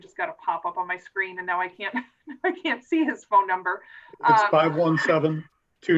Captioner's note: laughing